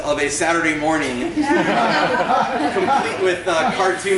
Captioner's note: laughter